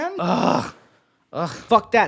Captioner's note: groaning